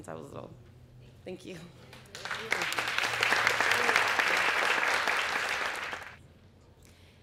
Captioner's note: applause